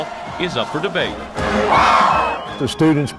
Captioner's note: crowd